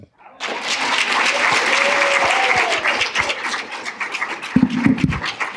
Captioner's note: applause